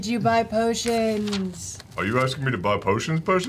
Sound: mystical voice

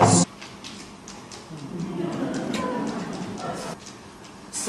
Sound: sung; chalkboard sounds

